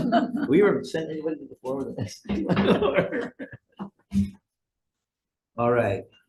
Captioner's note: laughs; laughs